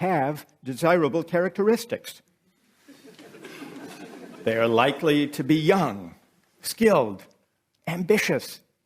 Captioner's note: laughter